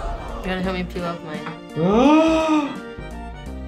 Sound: gasps

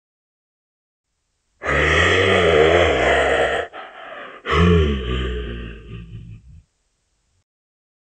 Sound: sound of werewolf

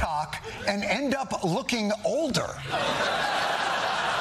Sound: laughter

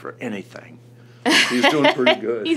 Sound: laughs

